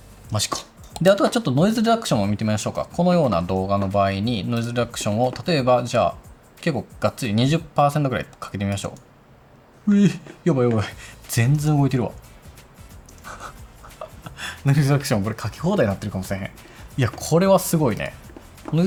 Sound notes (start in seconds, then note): 16.1 laughs